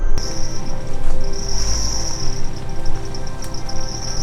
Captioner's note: crickets chirping